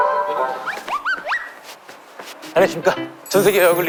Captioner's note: flapping